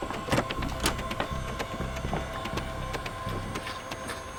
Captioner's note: door clicks